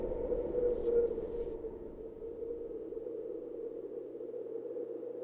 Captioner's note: wind howling